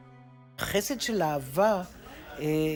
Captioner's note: in Hebrew